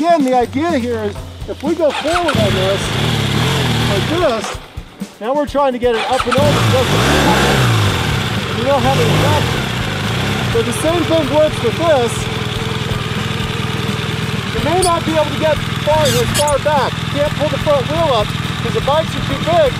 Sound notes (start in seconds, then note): 9.7 motorcycle revs